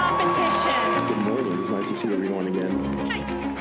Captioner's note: applause